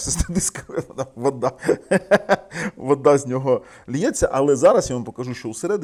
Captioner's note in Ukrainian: сміх